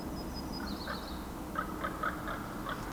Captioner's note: bird chirping